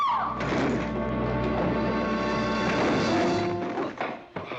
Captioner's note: ladies scream; tumbling down stairs